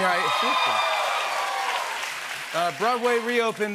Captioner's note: cheers and applause